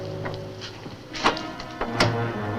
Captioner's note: lock clacks; dark music continues